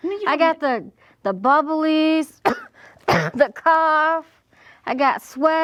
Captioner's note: coughing